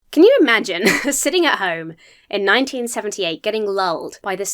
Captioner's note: laughs